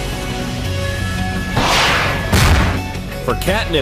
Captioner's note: rockets roaring